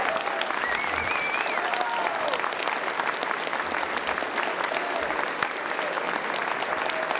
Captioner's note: applause